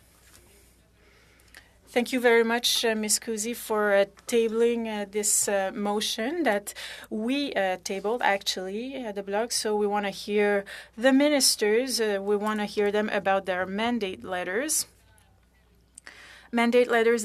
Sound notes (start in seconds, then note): 3.9 speaking French